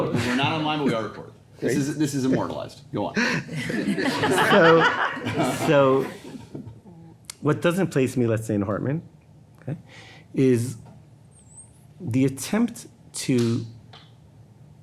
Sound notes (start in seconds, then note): 3.4 everybody laughing